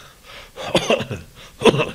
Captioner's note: coughing